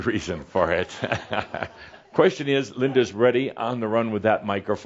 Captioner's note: Adamus chuckles